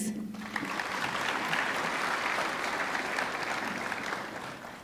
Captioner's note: audience clapping